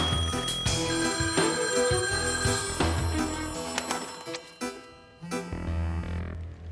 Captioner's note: different phone ringing; phone ringing in different tone; vibrating sound